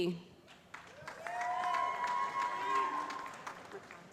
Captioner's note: cheering